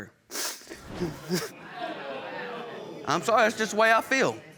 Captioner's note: sobbing; audience murmuring discontent